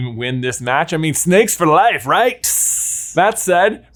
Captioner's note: hisses